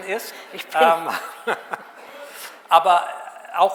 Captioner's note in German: lacht